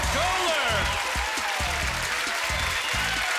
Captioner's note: cheers and applause